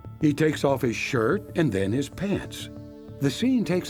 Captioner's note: none